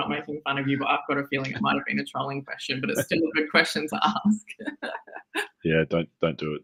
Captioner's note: laughing